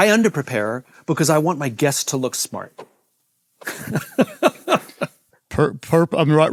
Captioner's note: laughs